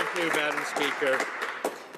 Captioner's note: speaking French